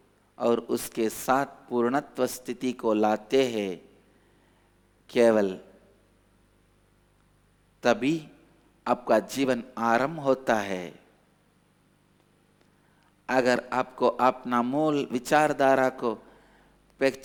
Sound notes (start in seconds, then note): 3.3 speaks in Hindi